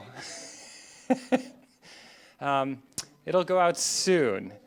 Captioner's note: laughs